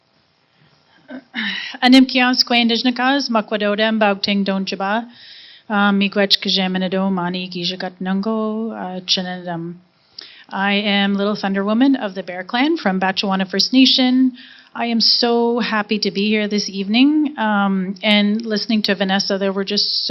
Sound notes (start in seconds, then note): 2.2 speaking in Anishinaabemowin language